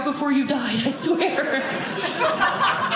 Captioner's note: audience laughing